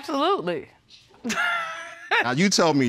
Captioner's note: laughing